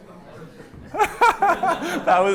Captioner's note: laughter